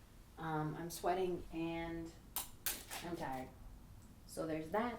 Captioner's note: camera clicks off